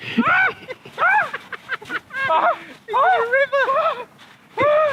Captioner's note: laughs